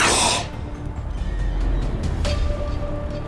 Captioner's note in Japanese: 鼻息